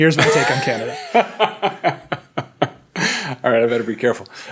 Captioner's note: laughing